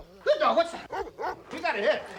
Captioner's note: dog barking; dog barks